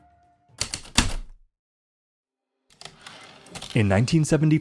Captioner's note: heavy typewriter keystrokes, return slide